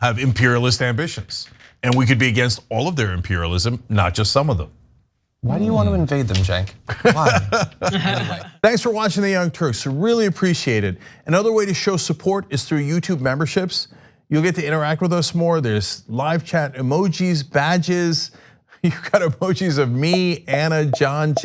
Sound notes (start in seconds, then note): 6.8 laugh